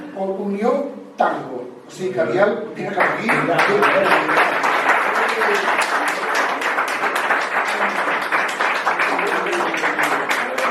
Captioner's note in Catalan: Aplaudiment